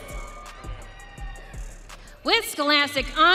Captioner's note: audience cheering